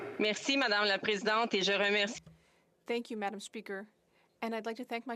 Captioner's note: speaking French